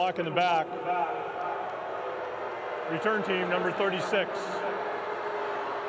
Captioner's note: fans boo